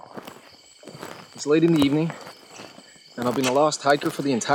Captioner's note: crickets chirping